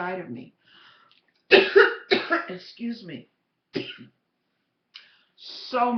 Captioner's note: cough